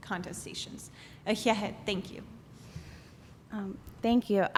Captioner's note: non-english